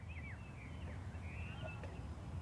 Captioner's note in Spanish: Aves trinando